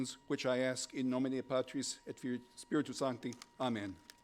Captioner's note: speaking in foreign language